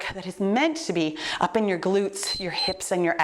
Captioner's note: timer beeps